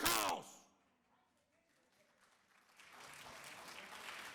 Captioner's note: audience applauds